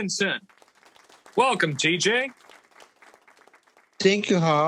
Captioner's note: audience clapping